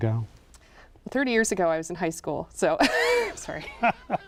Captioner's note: laughs